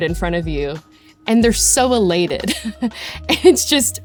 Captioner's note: laughs